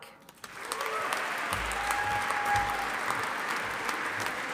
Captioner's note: audience applauding